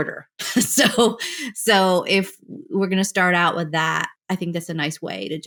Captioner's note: laughter